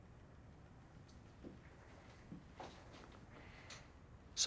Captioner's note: footstep